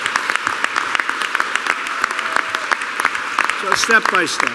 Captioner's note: applause